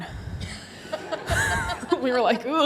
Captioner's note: audience laughs; laughs